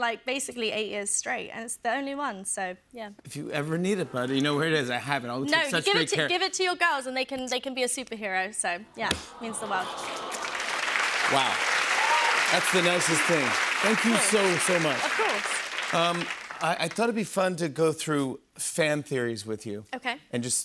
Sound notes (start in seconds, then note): 9.8 applause